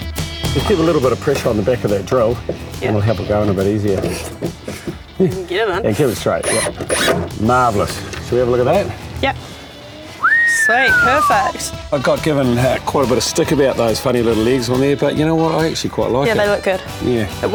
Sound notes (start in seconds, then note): 10.1 whistles